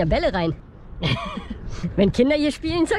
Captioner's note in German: kichern